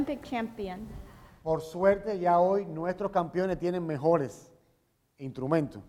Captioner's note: speaking in Spanish